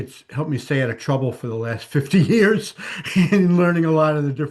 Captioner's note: laughs